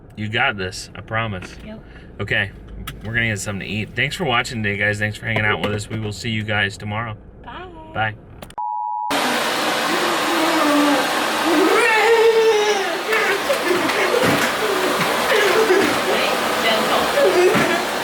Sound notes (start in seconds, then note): 9.0 vacuum running; 9.8 laughing